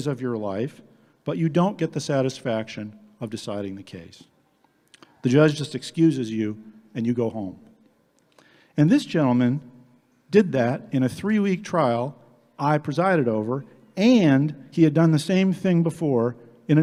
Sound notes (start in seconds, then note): none